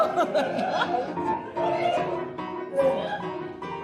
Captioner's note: laughter and applause